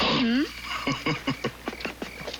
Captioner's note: laughing